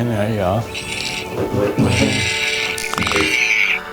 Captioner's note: robot noises